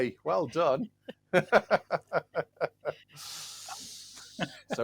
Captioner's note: laughter